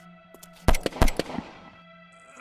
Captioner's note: sounds of gun